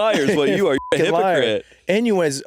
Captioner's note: beeping